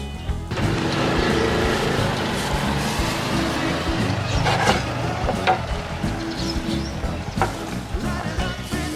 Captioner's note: laughs